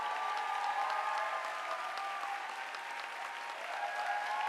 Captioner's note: audience applauding